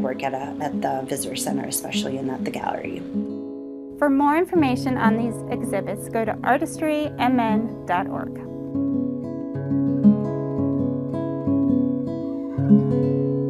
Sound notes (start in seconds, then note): 4.0 voiceover; 9.1 gentle music